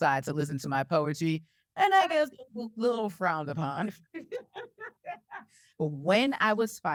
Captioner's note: laughs